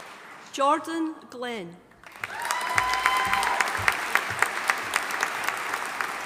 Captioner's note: audience applauding